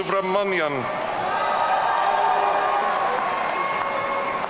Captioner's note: audience cheering